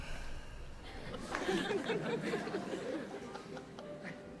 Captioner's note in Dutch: publiek lacht